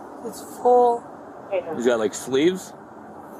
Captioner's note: radio chatter